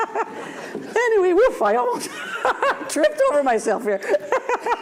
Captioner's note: laughs